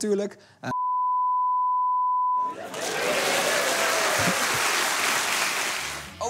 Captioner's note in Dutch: piep